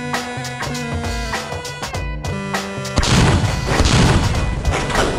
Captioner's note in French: Bruits de tir